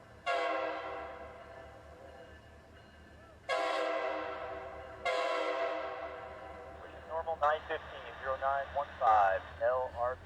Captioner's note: train horn